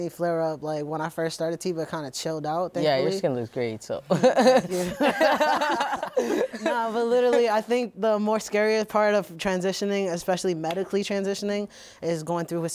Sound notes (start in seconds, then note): 7.1 all laughing